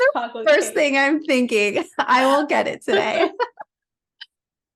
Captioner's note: laughing